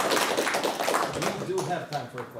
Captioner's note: applause